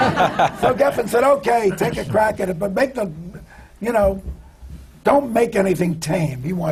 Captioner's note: laughter